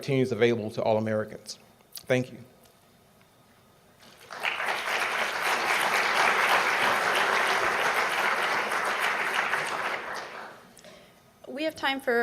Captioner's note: applause